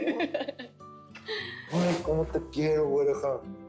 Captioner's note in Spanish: Risas